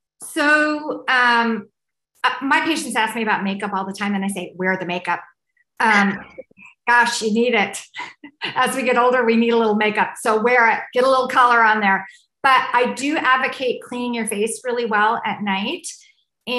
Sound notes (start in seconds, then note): 5.9 laughs